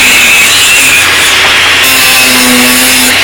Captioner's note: grinder noise